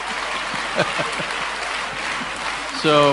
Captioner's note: laughter